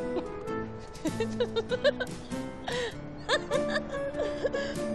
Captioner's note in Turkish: Kıkırdarlar aralarında